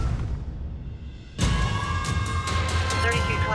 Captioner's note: siren wailing